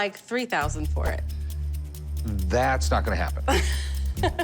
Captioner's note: laughs